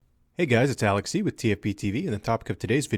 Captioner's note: voiceover